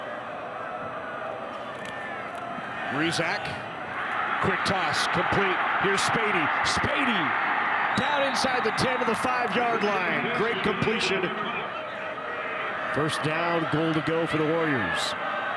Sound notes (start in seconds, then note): 4.0 fans cheer; 7.9 referee blows whistle